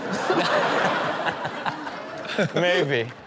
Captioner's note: audience laughs